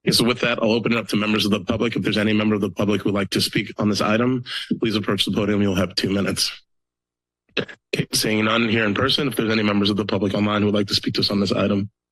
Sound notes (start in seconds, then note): 6.6 pause